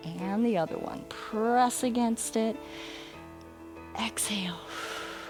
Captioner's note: exhales; inhales